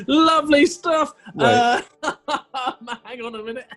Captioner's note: laughing